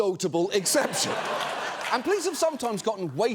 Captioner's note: audience laughs